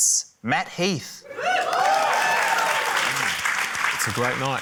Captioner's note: cheering, applause